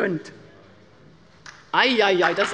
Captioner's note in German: Beifall bei der LINKEN - Zurufe von der CDU: Ei, ei, ei!